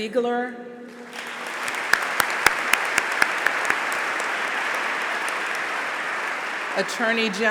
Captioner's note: applause